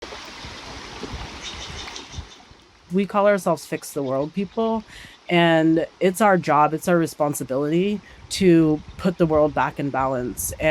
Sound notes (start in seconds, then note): 0.0 water swishing